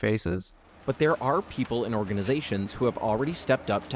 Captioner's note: voice-over